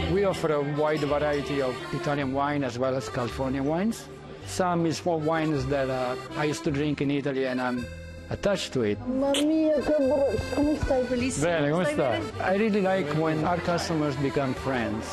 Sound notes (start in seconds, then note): 9.5 speaking Italian